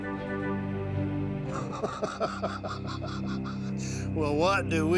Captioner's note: chuckling